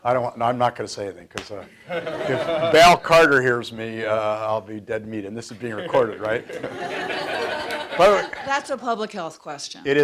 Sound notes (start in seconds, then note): 1.8 audience laughs; 5.5 audience laughs